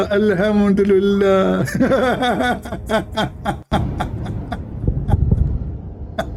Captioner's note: Ketawa